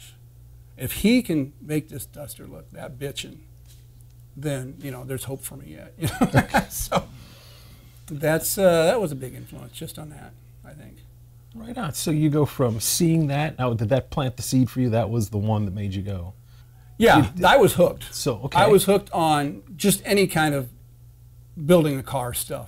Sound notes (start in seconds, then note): 6.0 laughs